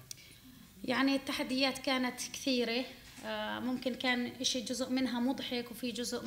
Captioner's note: speaking arabic